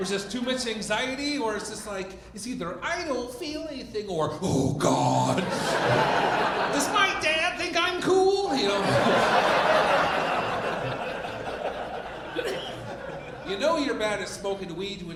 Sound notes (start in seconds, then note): 8.4 audience laughing